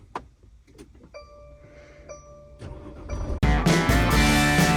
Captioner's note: van beeping; engine revving; upbeat music